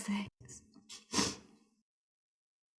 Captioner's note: sniffles